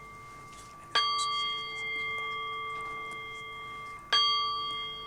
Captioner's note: overwhelmed by the bells